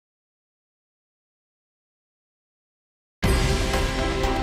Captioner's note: silence